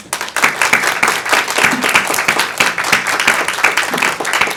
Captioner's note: audience applauding